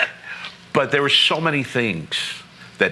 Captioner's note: laughing